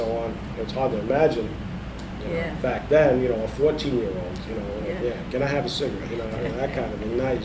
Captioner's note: laughs